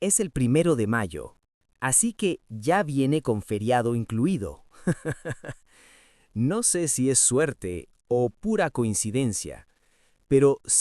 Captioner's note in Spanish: risas